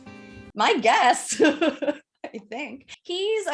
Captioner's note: laughs